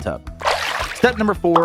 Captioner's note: water sloshing